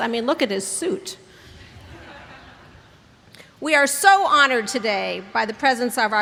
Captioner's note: laughter